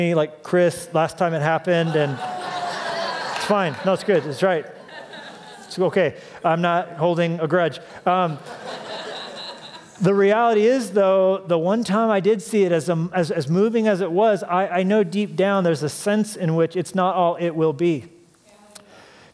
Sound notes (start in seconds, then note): 8.2 laughter